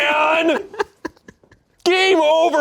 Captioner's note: laughs